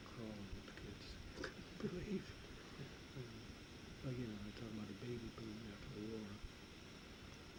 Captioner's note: chuckles